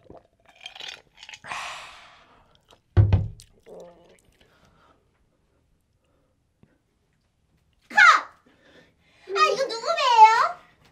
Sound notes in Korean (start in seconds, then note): 3.4 줄리아 배에서 꼬르륵 소리가 난다